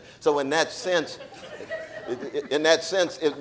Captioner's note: audience laughing